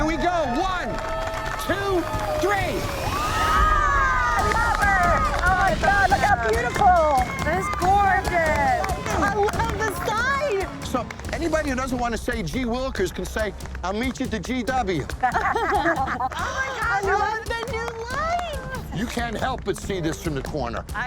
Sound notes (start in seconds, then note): 3.4 all shouting; 14.8 all laughing